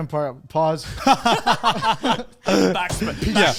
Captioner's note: laugh